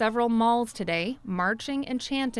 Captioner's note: speaking foreign language